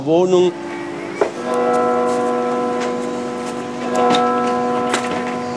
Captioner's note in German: Kirchenglocken